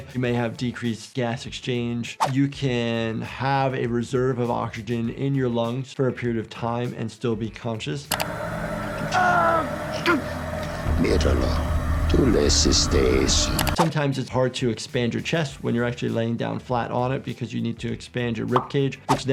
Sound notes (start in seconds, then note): 8.7 Gus screams; 11.2 Hector speaks in Spanish